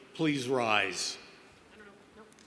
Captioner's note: none